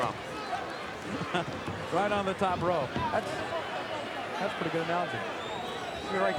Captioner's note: laugh